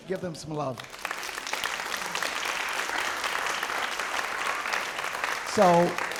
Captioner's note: applause